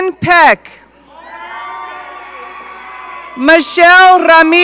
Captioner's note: audience cheering